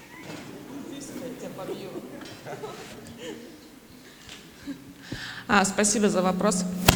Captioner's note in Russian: смех